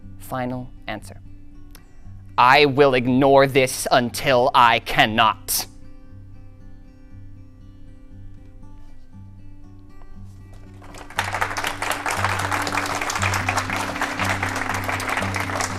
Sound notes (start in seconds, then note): 10.5 applause